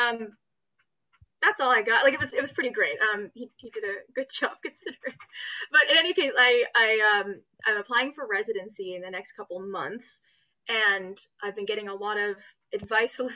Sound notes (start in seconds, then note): 4.9 laughs